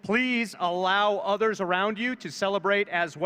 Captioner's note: none